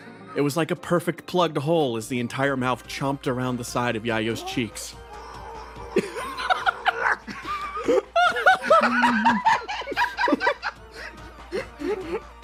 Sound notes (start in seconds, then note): 4.3 muffled Screaming; 7.3 laughs